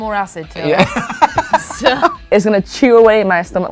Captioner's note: laughs